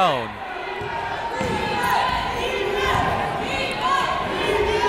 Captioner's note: cheering